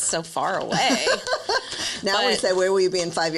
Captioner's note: laughs